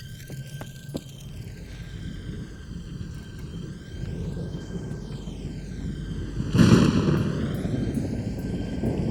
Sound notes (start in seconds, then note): 0.9 wind rushing; 5.7 thunder crashing